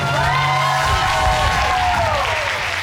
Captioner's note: audience cheering